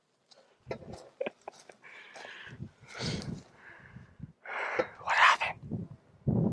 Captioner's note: chuckling